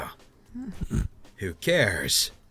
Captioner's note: cry; snickers; cry